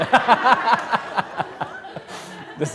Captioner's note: laughs